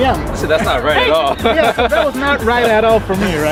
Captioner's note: laughter